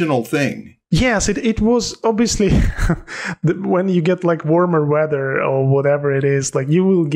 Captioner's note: chuckles